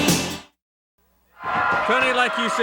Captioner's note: audience cheering